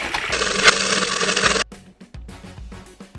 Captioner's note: grinding